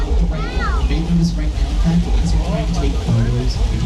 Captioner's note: wind blowing